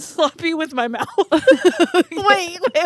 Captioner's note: both laughing